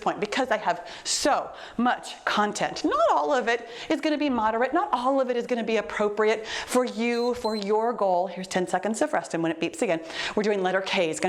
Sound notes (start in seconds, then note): 7.1 timer beeps